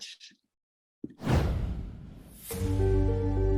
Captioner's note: air whooshing; gentle sombre music